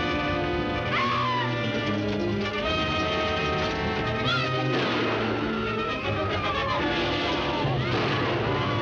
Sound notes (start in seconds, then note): 0.9 Nadya screaming; 5.9 dramatic music